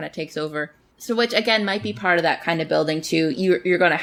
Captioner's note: laughs; laughs